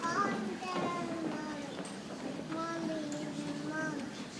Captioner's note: people chattering softly